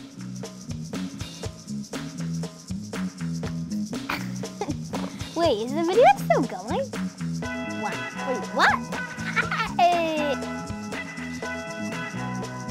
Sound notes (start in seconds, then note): 4.1 laughs; 9.2 giggles